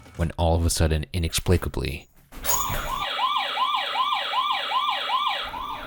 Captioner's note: alarm blaring